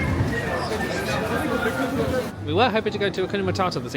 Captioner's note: guests chatting